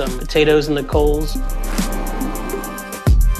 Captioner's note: torch whooshing